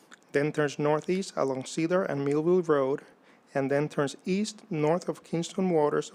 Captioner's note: none